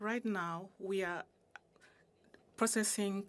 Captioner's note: speaking in French